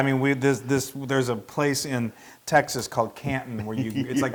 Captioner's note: laugh